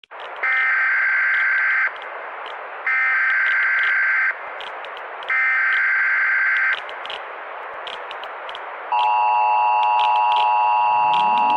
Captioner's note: EAS Alarm